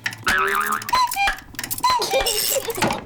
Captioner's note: clock chimes; laughs